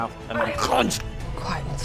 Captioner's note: crunch